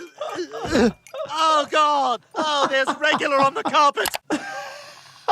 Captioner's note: groans; laughing